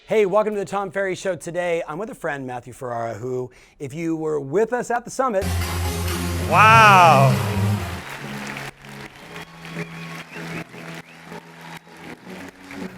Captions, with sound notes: Hey, welcome to the Tom Ferry Show. Today, I'm with a friend, Matthew Ferrara, who, if you were with us at the summit... (epic techno music) - Wow. (audience cheering)